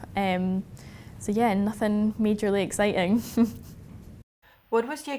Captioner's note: chuckles